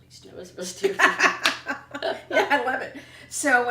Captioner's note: laughter